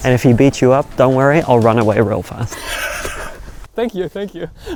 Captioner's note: laughing